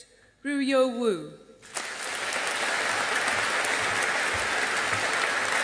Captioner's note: audience applauding